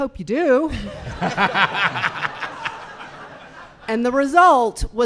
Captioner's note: audience laughing